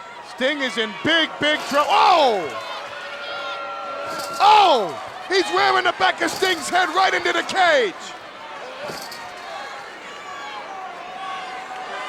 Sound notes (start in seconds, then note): 2.0 Paul exclaiming; 9.1 crowd cheering